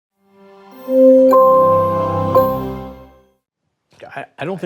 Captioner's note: vibrant music; bell dings